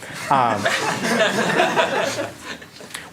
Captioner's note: laughter